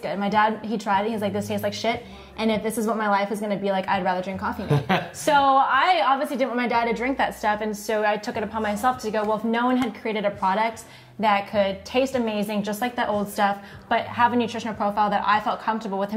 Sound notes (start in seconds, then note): 4.6 laughing